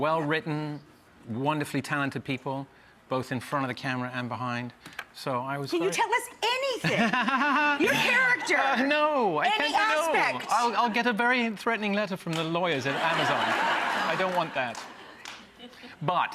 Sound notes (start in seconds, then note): 6.8 Cary laughing; 12.8 audience laughing